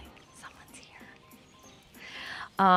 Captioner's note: whispering